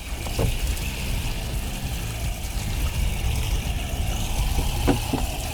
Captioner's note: water bubbling